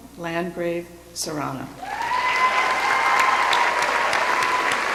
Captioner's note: cheering